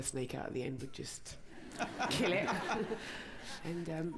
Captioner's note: laughter